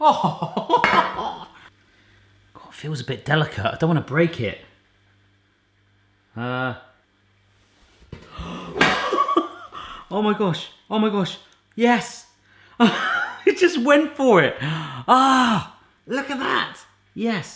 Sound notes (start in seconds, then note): 0.0 laughs with relief; 9.7 gasps